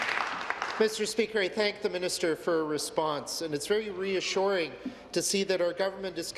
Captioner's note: applause